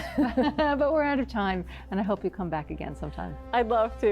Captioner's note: chuckles